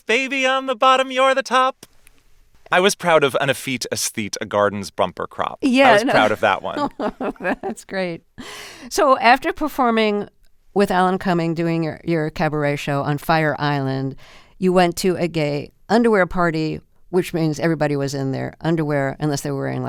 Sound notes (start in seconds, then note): 6.0 laughter